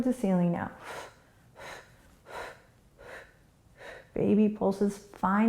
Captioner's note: quick breaths